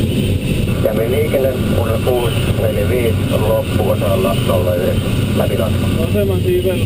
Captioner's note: radio